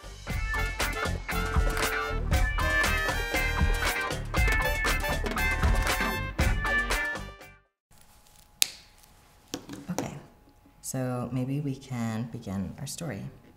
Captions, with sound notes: (upbeat instrumental music) (marker cap snapping) Okay, so maybe we can begin our story.